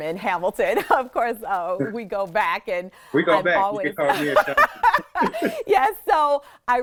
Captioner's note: laughs